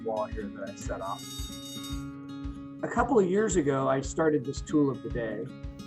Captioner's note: fire alarm sound effect